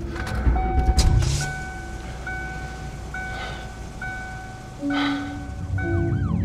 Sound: eerie music; car door opening with dinging sound; siren

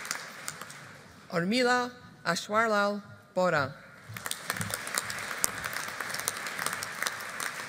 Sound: audience applauding

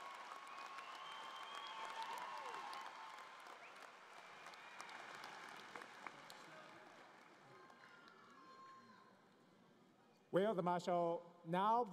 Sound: cheering and Applause

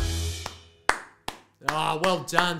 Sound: sound effect: Clap, clap, clap

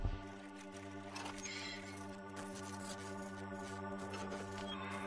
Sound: malfunctioning wheel squeaks

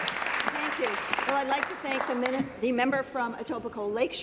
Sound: applause

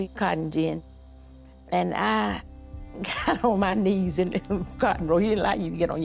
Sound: chuckling

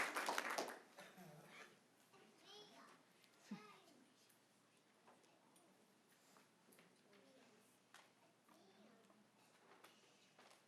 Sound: applause

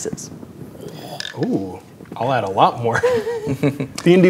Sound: chuckles

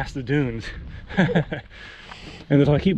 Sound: nervous laughter

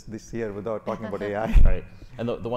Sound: chuckles

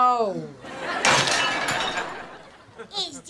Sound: smashing

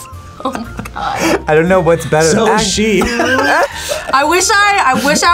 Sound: laughs

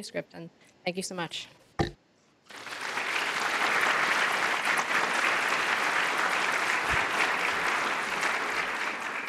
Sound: applause

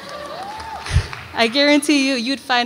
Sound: audience applauds and cheers

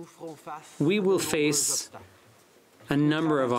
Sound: speaking french

